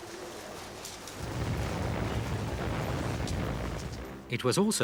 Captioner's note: engines roaring